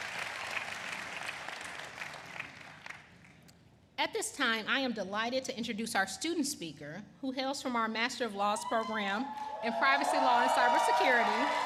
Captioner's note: applause